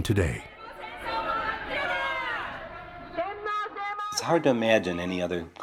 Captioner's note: protestors shouting in Japanese